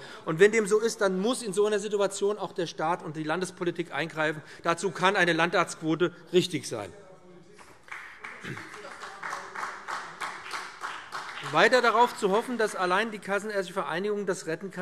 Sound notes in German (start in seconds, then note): 7.9 Vereinzelter Beifall BÜNDNIS 90/DIE GRÜNEN und CDU - Zurufe